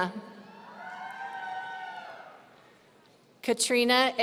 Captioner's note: audience cheering